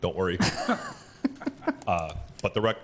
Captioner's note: group laughing